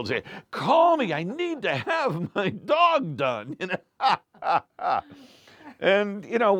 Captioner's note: laughs